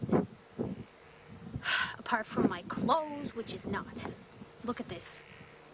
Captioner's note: sighs